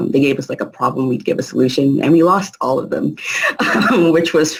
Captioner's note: laughing